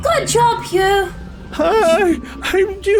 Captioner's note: audible nervous excitement